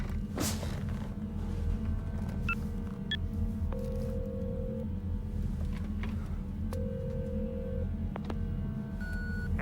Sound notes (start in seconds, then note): 2.0 beeping; 3.8 phone rings; 9.0 beeping